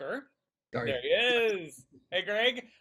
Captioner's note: laughing